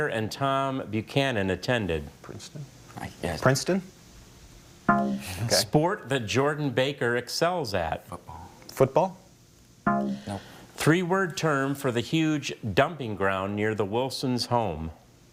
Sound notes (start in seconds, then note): 4.9 bell blares; 9.9 bell blares